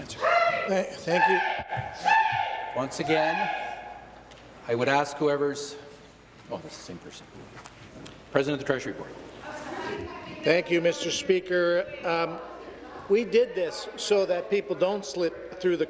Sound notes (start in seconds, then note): 5.4 woman shouting